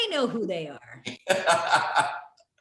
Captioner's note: laughs